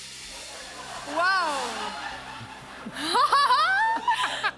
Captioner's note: laughs